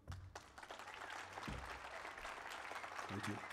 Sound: applause

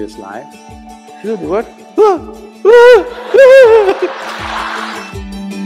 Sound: laughter

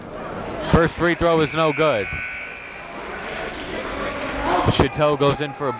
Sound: buzzer dings

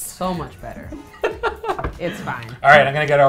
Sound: laughs

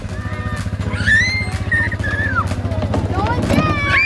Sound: children screaming and shouting

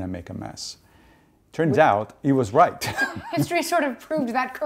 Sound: laughing

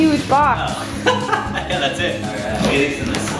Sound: laughing

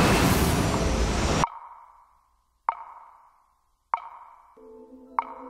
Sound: ticking

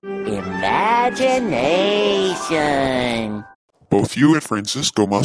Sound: Spongebob voice

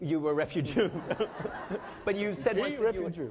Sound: laughing

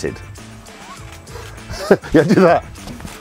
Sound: camer Shutters Clicking

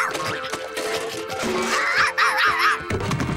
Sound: barking

